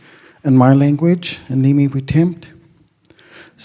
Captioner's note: speaks Indigenous language